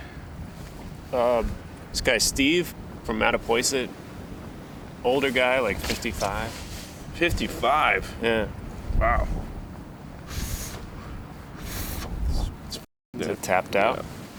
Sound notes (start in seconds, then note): 10.2 inhales sharply